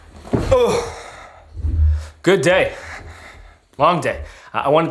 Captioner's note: groans